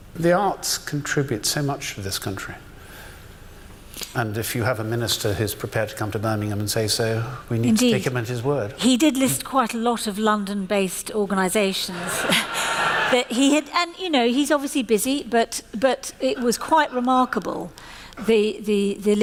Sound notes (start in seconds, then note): 11.9 laughter